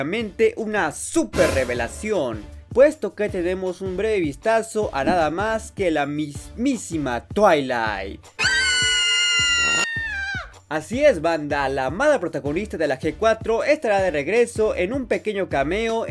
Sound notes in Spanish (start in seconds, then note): 8.4 Gritos de perra loca